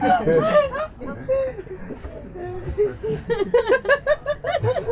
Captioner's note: laughter